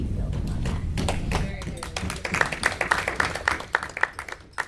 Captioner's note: audience clapping